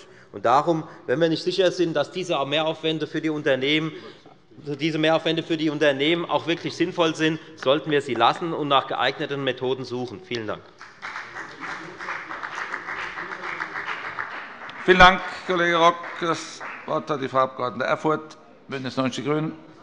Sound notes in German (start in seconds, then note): 10.7 Beifall bei der FDP